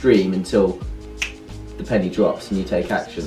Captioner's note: snap